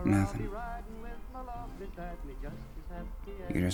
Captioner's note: none